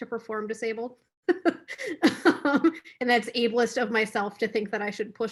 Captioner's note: laughs